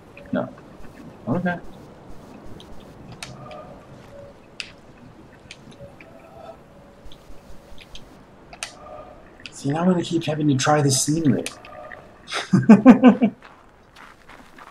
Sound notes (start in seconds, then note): 12.2 chuckles